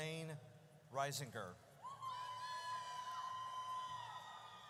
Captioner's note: audience cheers